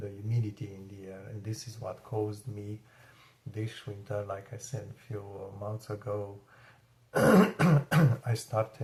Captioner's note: clears throat and cough